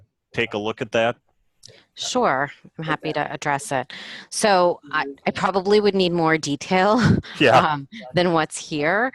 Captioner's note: chuckle